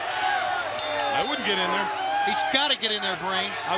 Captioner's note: crowd chatter; bell ringing